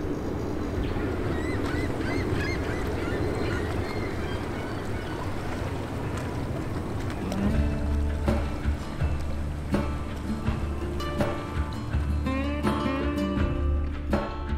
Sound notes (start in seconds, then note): 1.5 seagulls call; 7.0 boat motor idles; 7.2 easy music